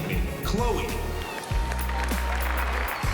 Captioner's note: cheering